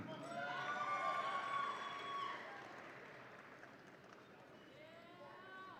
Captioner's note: audience applauds and cheers